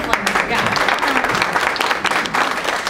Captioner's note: applause